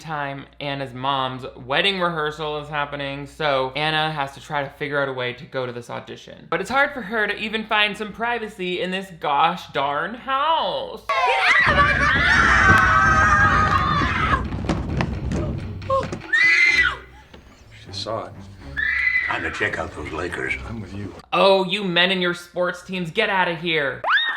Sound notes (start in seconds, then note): 11.1 screams; 12.9 kids screaming; 16.2 Anna screaming